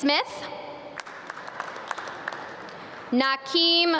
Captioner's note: audience clap